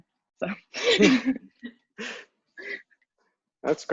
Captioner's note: laughing